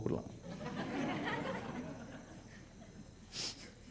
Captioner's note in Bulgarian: смях